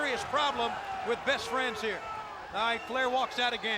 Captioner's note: crowd clamoring